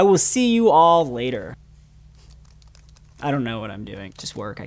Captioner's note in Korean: 타자치는 소리